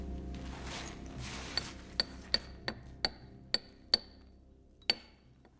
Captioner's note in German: Metallklopfen